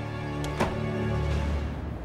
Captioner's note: the door closing sound